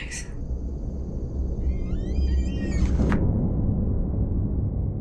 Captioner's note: door creaking